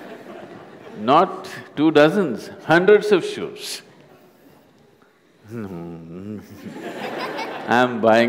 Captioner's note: laughter; laughter